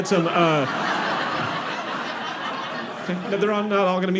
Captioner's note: audience laughing